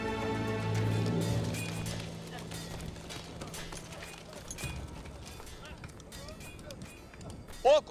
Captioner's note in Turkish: Kılıç sesleri